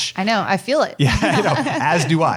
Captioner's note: laughing